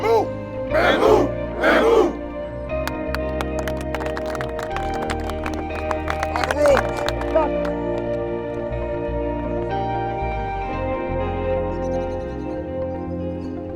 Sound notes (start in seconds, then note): 2.8 group clapping; 9.3 birds chirping over expressive rock music